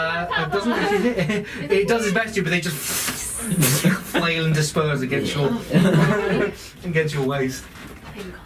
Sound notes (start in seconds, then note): 3.3 fwooshing noises